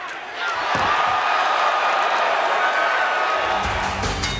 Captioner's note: crowd cheering